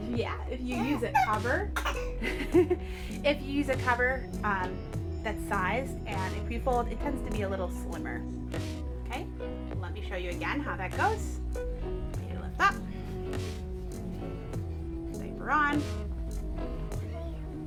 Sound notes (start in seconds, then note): 0.6 laughs; 1.5 baby coughs